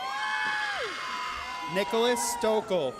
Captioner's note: audience cheers